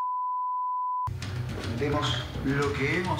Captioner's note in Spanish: Bip